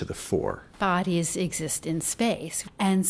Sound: voiceover

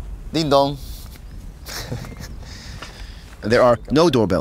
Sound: laughs

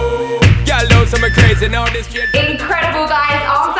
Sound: timer beeping

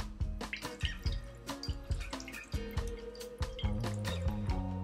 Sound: water dripping

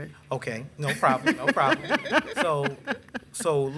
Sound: laughing

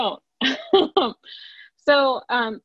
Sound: chuckles

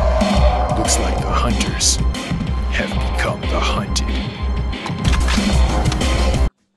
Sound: cocks gun

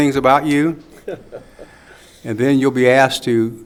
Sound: laughing

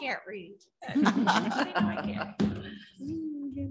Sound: chuckling

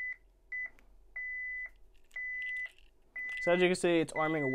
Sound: keypad beeps

